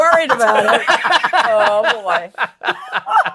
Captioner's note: laughter